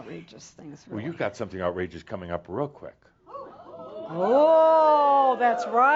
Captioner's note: audience says “Ooh!”